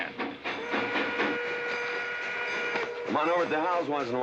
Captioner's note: train whistle blowing